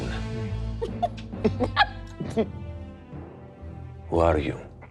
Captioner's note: giggling